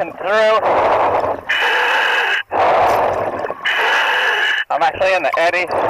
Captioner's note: breathing heavily